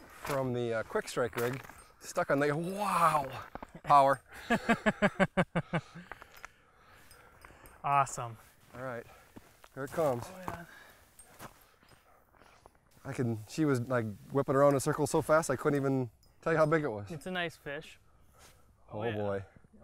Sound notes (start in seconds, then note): 4.2 laughs